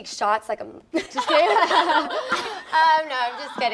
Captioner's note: laughs